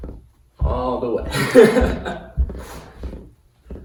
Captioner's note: laughter